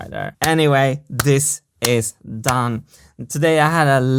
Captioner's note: claps hands